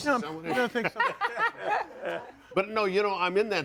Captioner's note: audience laughing